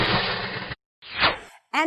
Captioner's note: whoosh!